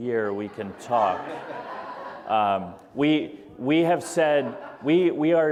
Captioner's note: audience laughter